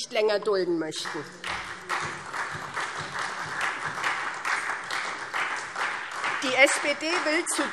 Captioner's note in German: Beifall SPD